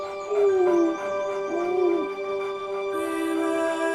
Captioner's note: tongue squelching; Hank crying